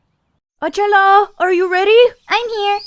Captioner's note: birds chirping